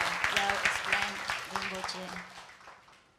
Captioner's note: audience applauding